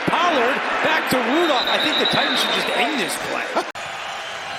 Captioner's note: whistle blowing